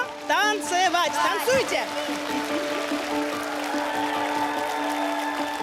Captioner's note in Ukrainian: оплески